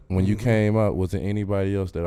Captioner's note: none